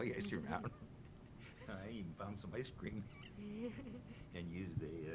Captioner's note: laughs